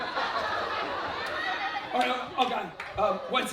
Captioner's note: laughter